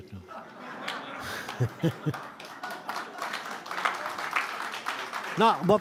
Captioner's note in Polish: śmiech, oklaski